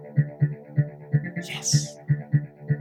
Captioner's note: whispers